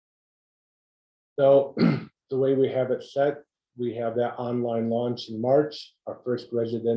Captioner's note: cough